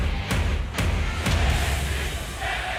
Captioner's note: fans chanting